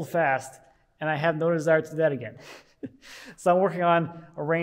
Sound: laughs

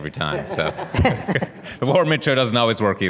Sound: laughter

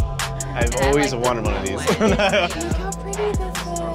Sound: laugh

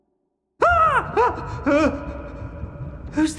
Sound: screams

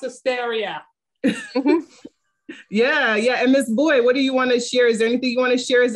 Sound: laughs

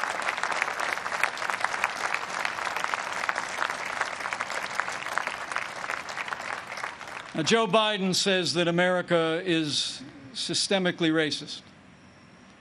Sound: applause

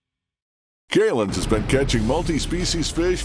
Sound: voiceover

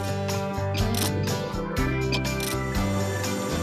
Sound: crane Whirring; ratchet Clicking; crane Whirring

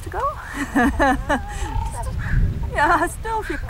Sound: laughs

